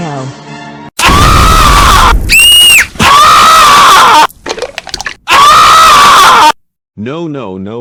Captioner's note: screaming